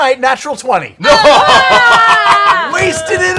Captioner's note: cheering